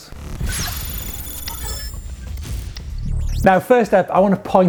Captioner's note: digital beeping